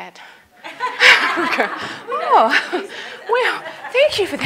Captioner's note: audience laughter